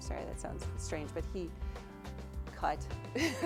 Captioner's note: laughter